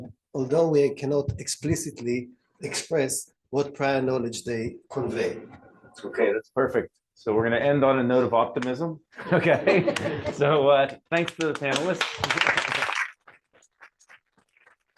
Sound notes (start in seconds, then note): 9.1 laughter; 11.2 applause